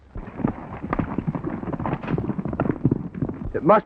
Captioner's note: horses galloping